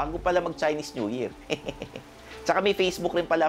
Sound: laughs

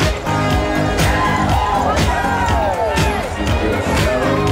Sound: crowd

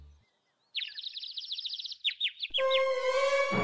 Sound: birds tweet; suspenseful music

